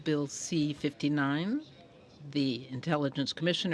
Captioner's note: speaking in french